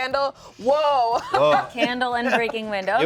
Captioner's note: laughs